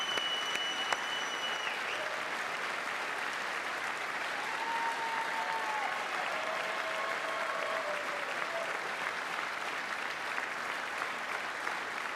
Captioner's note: applause